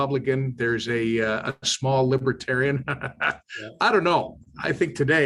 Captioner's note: laughs